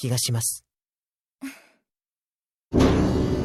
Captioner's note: chuckle